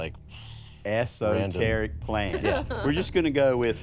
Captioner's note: laughter